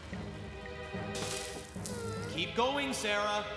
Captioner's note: rock Clatters